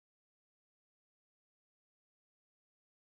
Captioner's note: none